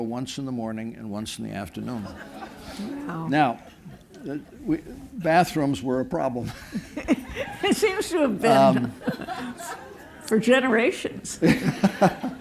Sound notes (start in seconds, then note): 6.4 laughter